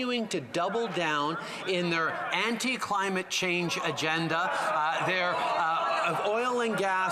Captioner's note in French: voix de l'interprète